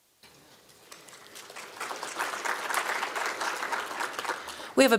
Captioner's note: applause